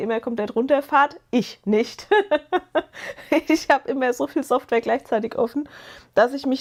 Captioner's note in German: gelächter